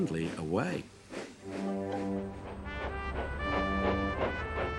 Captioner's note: train puffing